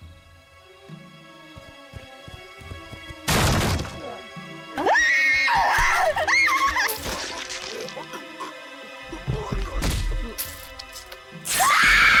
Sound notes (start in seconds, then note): 3.3 footsteps on Grass; 5.6 door Crashes, Wood Breaking; 11.5 mayhem, Stabs, Female Screams, Cloth ripping